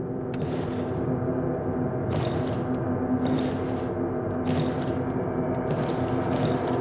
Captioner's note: eerie music; metal clanging